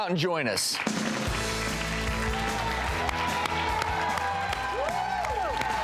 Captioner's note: audience clapping and cheering